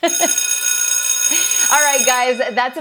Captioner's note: laughs; bell ringing